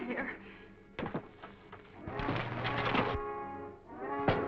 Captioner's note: window clanking